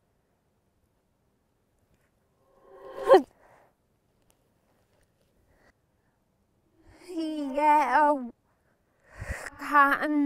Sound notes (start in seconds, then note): 1.7 grunt